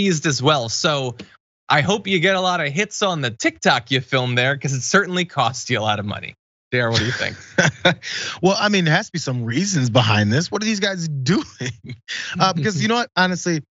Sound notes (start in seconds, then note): 6.8 laugh; 11.1 laugh